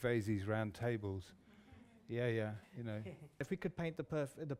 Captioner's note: laughter